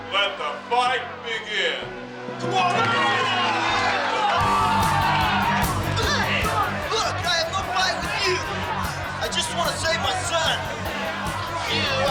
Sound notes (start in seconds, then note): 2.4 people cheer; 4.8 upbeat music